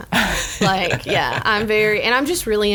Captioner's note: laughs